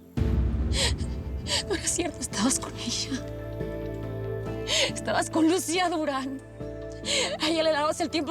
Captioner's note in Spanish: sollozos